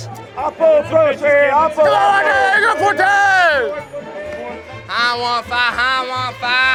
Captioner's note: shouting